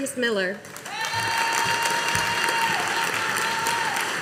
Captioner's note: audience applauding